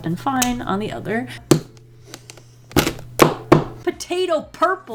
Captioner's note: thump, tap, tap